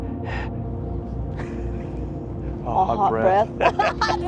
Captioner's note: laughter